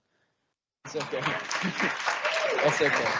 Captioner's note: audience applauding; chuckles